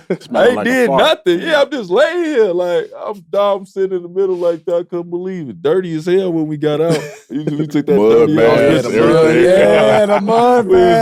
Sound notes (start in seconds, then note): 0.0 laughs; 6.8 Caron laughs; 7.7 group chattering